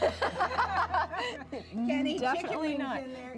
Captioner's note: laughing